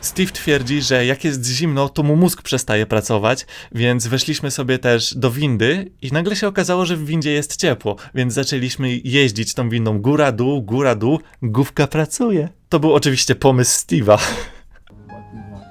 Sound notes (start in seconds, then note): 14.2 laugh